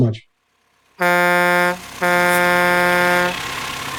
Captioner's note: truck horn honking